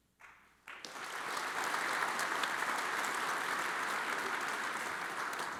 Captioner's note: audience applauds